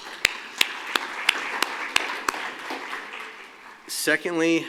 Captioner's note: applause